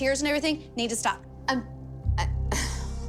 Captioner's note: sighs